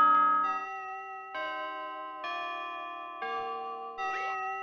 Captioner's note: grandfather Clock Chiming; higher Pitched Grandfather Clock Chiming; same Grandfather Clock Chiming